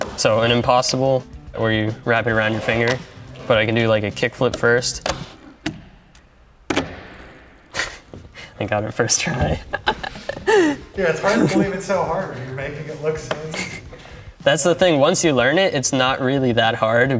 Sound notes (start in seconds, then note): 7.7 chuckling